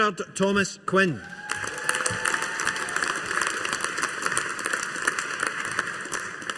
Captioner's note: audience applauding